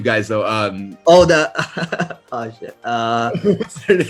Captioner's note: laughs